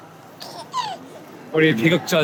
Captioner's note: giggling